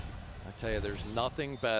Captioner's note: swoosh